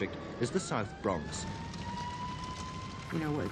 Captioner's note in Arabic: صافرة إنذار صاخبة; نار طقطقة